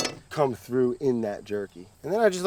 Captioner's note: knife clanks